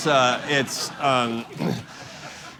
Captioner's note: laughter